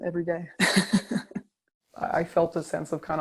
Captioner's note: laughter